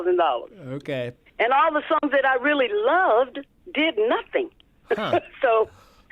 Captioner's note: laughter